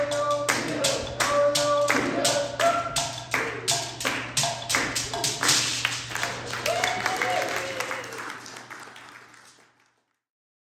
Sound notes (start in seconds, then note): 5.8 applause